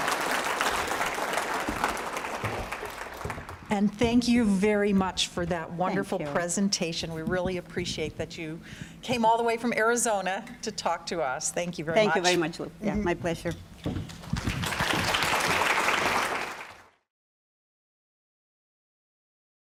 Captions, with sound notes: (applause) - And thank you, very much, for that wonderful presentation. - Thank you. - We really appreciate that you came all the way from Arizona to talk to us. Thank you, very much. - Thank you, very much, Lou. Yeah, my pleasure. (applause)